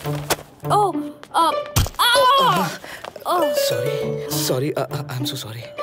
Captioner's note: Screams